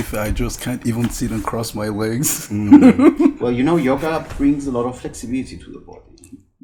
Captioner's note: laughs